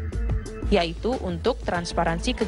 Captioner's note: non-english speech